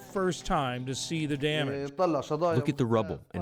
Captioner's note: through translator